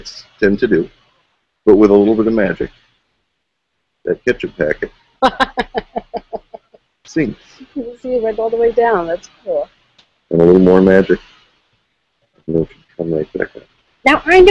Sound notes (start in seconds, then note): 4.2 packet falls; 5.2 laughs